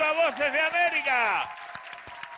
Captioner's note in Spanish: Aplausos